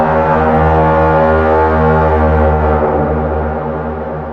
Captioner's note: none